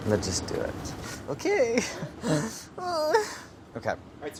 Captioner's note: chuckles and whimpers